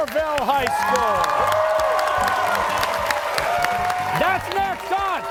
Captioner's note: cheers and applause